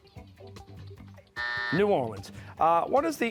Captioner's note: buzzer